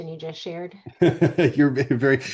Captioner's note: laughing